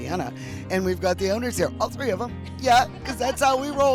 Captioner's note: laughing